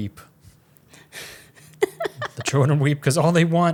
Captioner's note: laughs